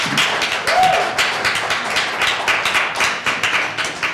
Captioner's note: applause